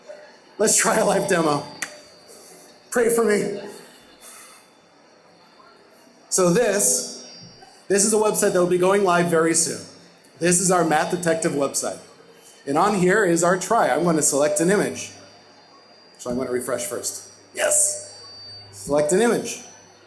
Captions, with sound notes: Let's try a live demo. (clap) Pray for me. So this, this is the website that will be going live very soon. This is our math detective website. And on here is our try, I'm gonna select an image. So I'm gonna refresh first. Yes! Select an image.